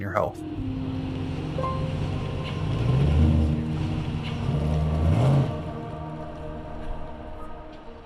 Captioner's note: car engine whirs